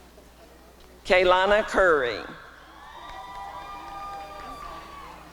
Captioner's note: applause and cheering